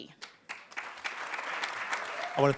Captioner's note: applause